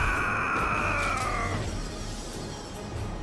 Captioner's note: dramatic music; screaming; dramatic music